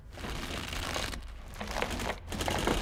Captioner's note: lollipop stick creaking